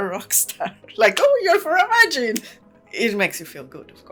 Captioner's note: laughs